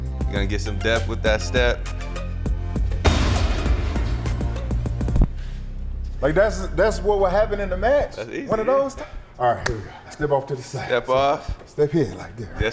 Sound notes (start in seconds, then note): 3.0 kick thudding; 9.8 Spice claps